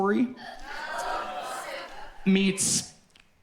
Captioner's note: audience exclaims